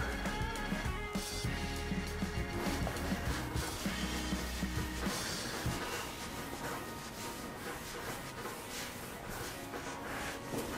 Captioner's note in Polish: dźwięki przecierania